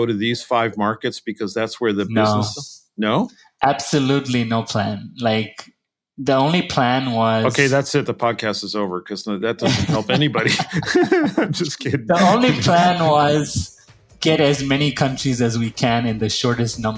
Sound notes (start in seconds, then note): 9.6 laugh